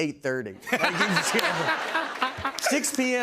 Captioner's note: laughter